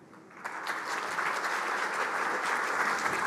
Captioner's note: applause